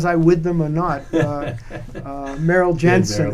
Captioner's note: laughs